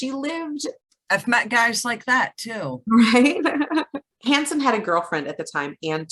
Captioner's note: laughs